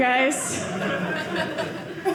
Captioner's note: audience laughing